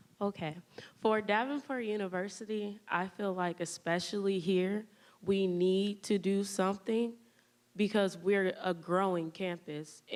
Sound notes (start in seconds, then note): none